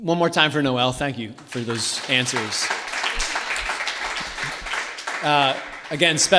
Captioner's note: audience Applause